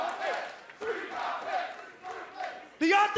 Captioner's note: fans chanting